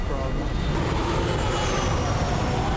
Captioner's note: wind whooshing